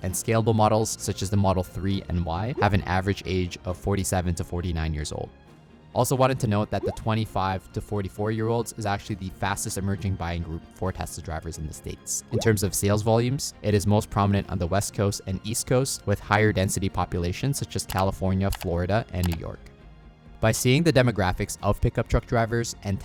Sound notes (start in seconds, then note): 2.6 graphics popping; 6.7 graphics popping; 12.3 graphics popping; 18.5 cursor clicking